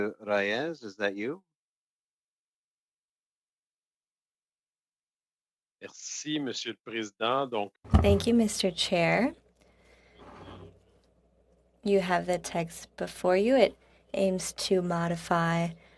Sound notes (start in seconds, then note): 10.6 speaking French